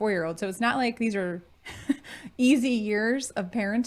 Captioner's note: chuckling